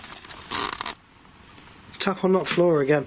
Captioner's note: creaking